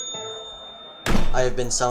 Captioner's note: slam